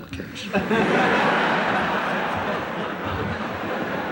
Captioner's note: laughter